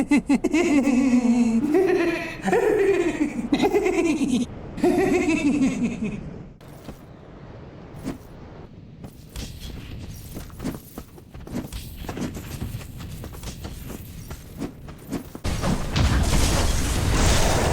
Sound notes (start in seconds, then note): 0.0 giggling; 2.7 Undead Merchant Laughing